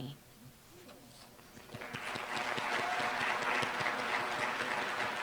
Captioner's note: applause